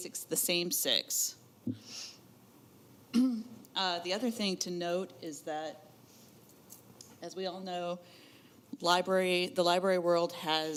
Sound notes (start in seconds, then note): 3.1 clears throat